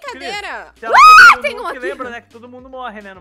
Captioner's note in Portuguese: grita